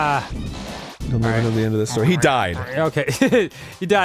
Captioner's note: giggles